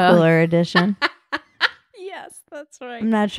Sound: laughing

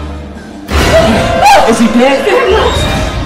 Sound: Janet screams

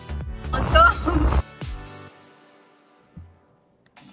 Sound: chuckles

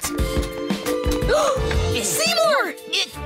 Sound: gasping

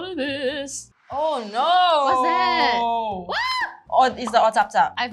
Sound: screams

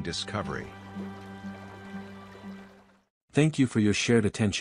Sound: flowing water

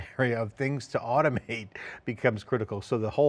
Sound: chuckles

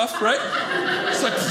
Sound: audience laughing

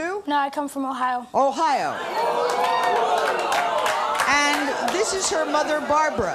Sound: audience jeering

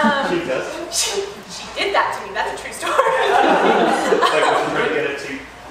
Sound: laughter

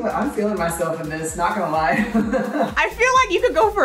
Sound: laughs

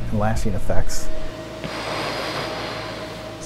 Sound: heavy breathing

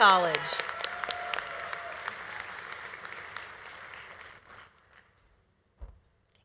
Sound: audience applauding; audience cheering

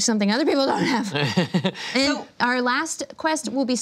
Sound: laughs

